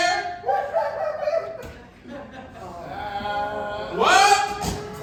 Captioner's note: audience laughing